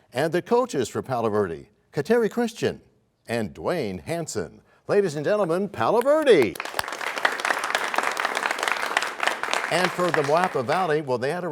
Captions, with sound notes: And the coaches for Palo Verde, Kateri Christian and Duane Hanson. Ladies and gentlemen, Palo Verde! [applause] And for Moapa Valley, well, they had